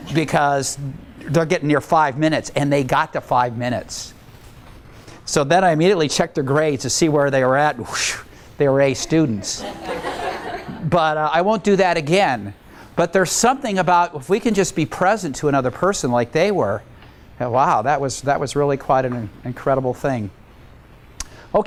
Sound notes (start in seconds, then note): 9.4 laughter